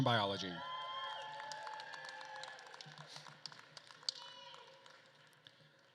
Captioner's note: attendees cheering and applauding